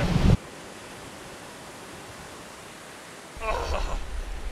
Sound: waves crashing

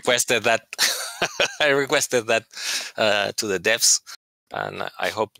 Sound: laughter

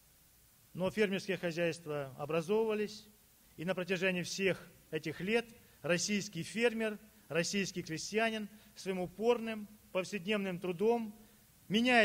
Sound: speaking Russian

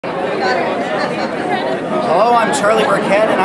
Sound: background chatter

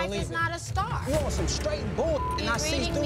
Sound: beep

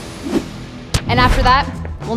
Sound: smack

